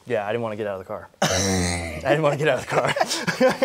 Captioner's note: laughing